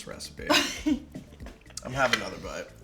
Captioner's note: laughs